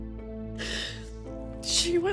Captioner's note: sobs